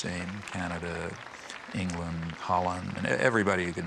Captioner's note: audience applauding